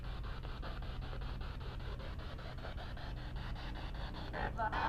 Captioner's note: radio noise from the spirit box